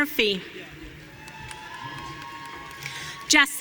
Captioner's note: audience cheering